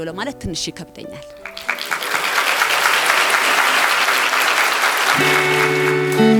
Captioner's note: applause